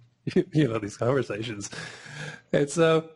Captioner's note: chuckling